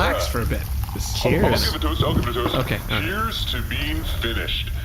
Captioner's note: excited